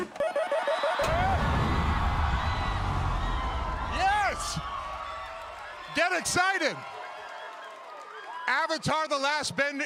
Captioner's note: cheering